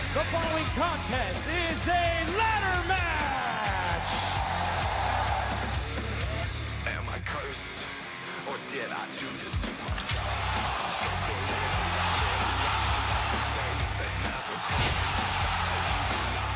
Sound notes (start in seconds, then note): 4.4 crowd cheering